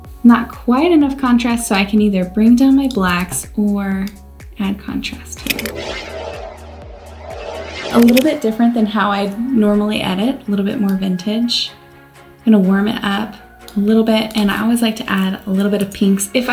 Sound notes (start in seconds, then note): 5.5 upbeat music; 6.8 whirring